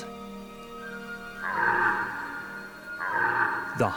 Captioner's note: red deer calling